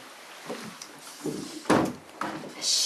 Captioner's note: door clicking closed